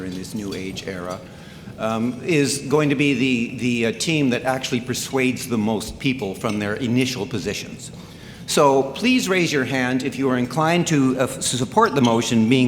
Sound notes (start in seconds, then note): none